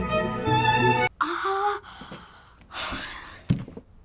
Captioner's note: sighs